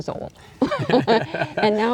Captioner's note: group laughing